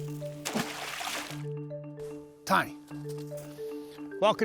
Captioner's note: water splashing